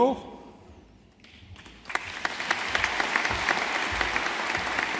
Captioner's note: audience applauding